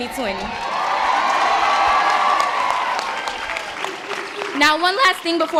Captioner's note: audience applause